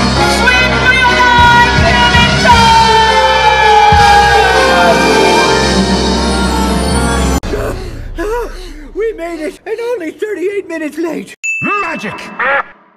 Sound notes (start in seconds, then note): 7.4 Sebastian and Flounder panting